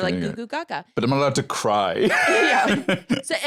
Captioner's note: laughs